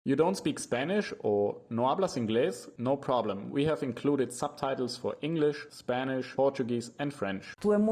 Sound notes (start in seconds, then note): 0.1 voice-over